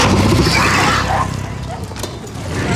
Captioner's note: screams